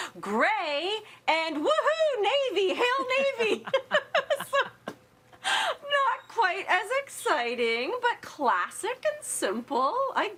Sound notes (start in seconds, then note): 3.3 laugh